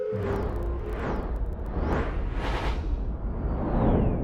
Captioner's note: whooshing